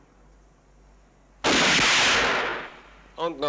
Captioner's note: gun fires